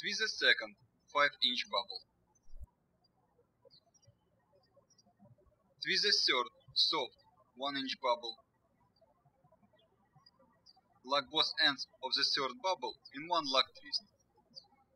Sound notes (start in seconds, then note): 2.9 birds chirping; 9.2 birds chirping; 14.7 birds chirping